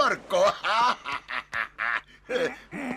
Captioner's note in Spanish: ríe; carraspea